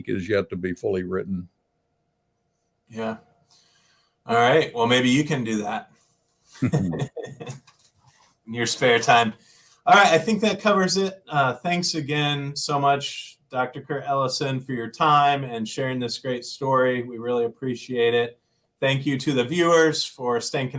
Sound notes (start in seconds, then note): 6.6 laughter